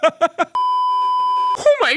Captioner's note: giggly himbo laughing; beeeeeeeeeeeep